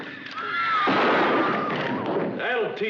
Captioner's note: gunshot